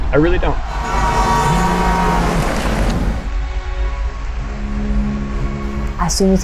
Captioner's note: dramatic music; bus horn blares